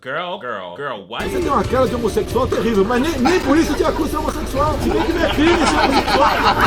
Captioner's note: Bolsonaro speaking Portuguese